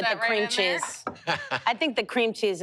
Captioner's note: laughs